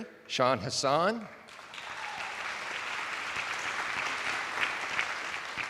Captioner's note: attendees applauding